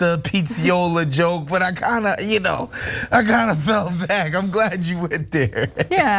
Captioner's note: laugh